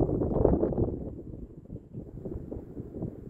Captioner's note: wind whistling